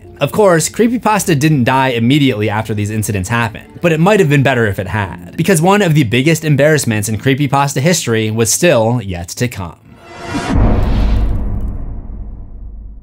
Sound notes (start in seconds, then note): 9.9 impact